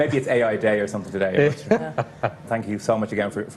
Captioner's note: VJ laughs